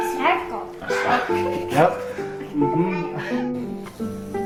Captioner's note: laughing